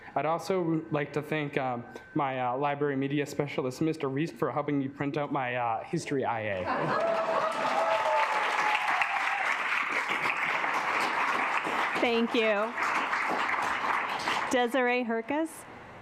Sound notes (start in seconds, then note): 6.7 assembly clapping; 6.7 assembly laughing